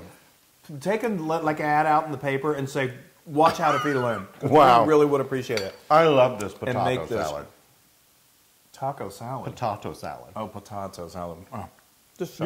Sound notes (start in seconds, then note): 3.4 laugh